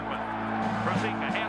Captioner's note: cheering